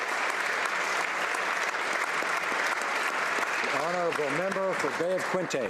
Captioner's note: applause